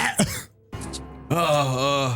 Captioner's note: coughing